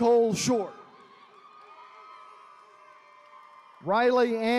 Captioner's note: attendees cheering